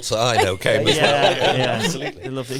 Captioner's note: all laughing